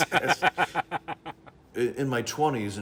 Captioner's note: laughing